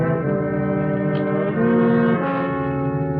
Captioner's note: door opens